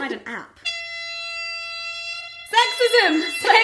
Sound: honking from phone

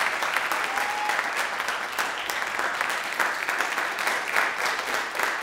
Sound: audience applauding

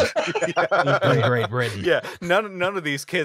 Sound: laughter

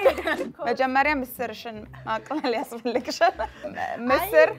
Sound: both speaking Amharic; speaking Amharic

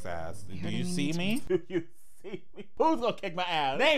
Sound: laughing

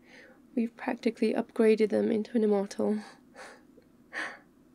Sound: laughs

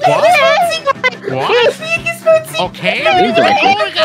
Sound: higher pitch

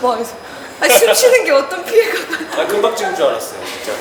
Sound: holding his breath

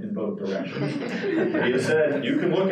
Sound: participants laughing

